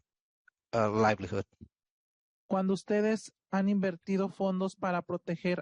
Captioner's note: speaking Spanish